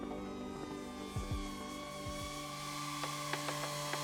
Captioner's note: drone revs